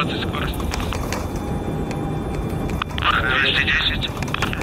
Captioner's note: landing gear rumbling